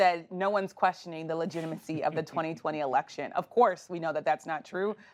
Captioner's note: laughter